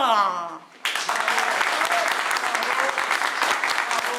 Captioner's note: applause